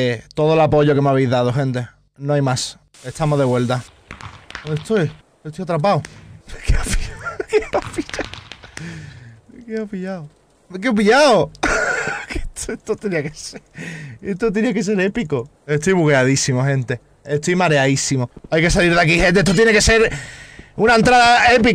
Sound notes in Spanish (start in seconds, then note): 6.5 risas; 11.6 mas risas